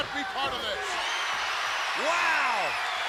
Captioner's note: crowd cheers